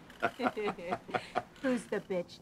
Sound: laughing

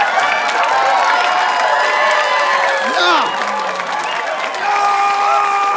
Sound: applause; screaming

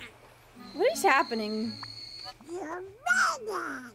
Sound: train Whistle

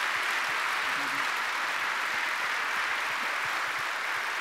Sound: audience clapping

